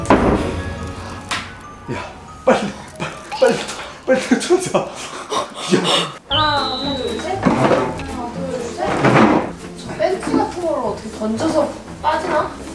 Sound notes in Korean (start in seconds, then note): 0.0 문 닫는 소리; 4.8 가쁜 숨소리; 8.5 의자 소리